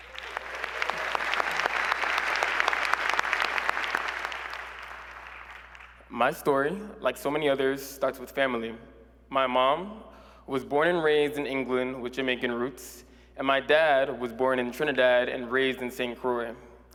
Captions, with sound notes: and I am a proud first-generation CUNY student. [ Applause ] My story, like so many others, starts with family. My mom was born and raised in England with Jamaican roots,